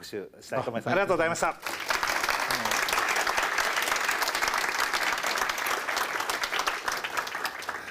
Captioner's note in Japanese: 拍手